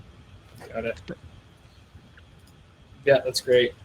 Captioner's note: clicking